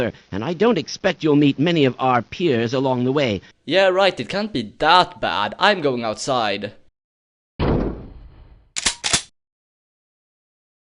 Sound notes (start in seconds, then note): 7.4 door opens; 8.5 click-click